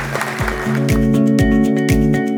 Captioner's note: audience applauds; light music